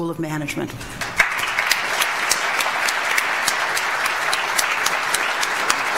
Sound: audience applauds

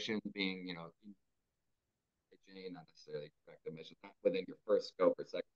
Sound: faintly speaking

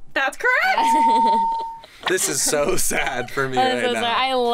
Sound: bell rings; laughs

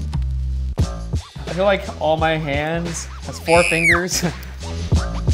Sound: sound effect: Screaming

